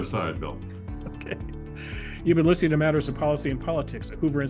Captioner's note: laugh